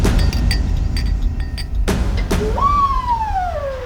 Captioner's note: clinking; suspenseful music; whirring